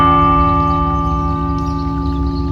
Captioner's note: bell tolls; birds chirping